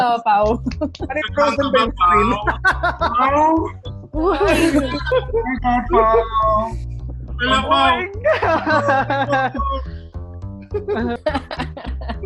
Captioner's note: cheering and laughing